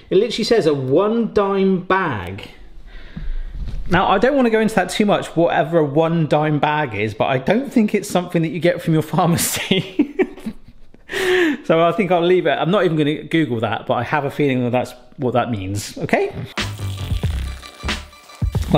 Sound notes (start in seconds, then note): 9.9 laughs; 16.4 electronic hip-hop music; 16.6 cider trickling